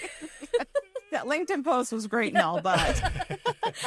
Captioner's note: laughs